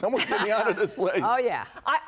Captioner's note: laughter